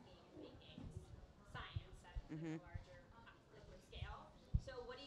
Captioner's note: speaks quietly